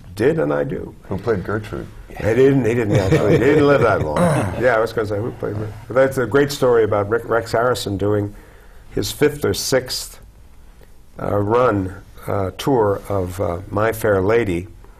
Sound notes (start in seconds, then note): 4.1 clears throat